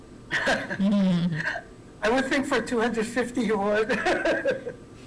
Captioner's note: laughing